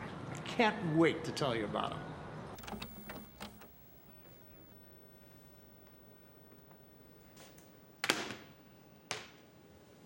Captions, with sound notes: I can't wait to tell you about 'em. (tape clicking)